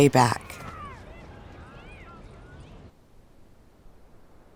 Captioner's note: children chattering